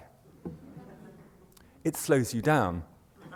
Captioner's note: laughter